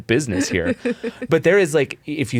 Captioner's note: chuckles